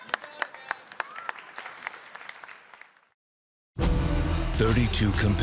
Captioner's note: applause